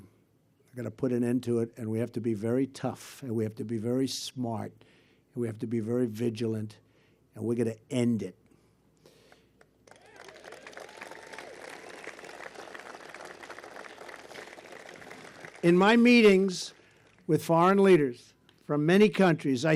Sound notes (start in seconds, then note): 9.6 applause